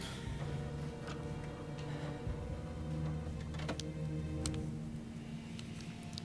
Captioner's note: fax machine